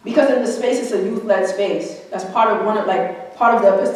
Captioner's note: none